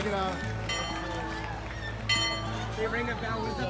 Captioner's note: bell ringing